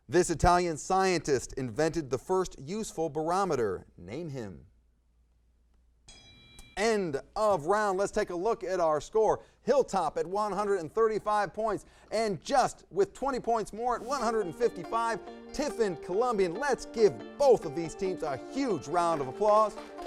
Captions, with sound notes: This Italian scientist invented the first useful barometer. Name him. (bell rings) End of round. Let's take a look at our score. Hilltop at 135 points and just with 20 points more, 155 Tiffin Columbian. Let's give both of these teams a huge round of applause.